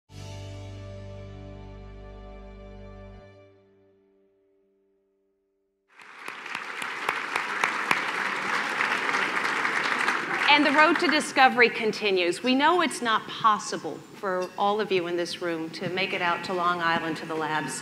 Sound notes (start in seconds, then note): 0.2 pleasant instrumental music; 5.9 applause